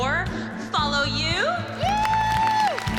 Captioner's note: cheering and applause